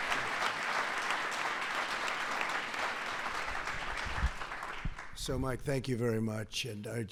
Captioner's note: applause